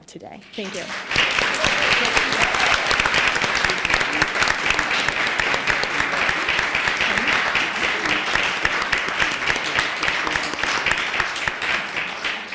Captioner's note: applause